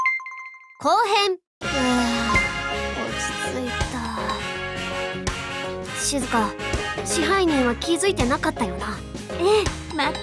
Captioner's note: sigh